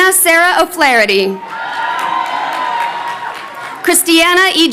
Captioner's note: crowd cheering